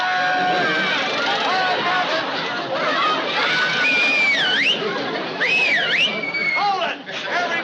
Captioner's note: screaming; whistles